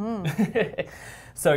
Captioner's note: laugh